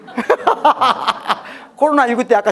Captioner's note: haha